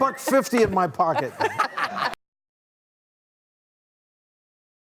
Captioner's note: all laughing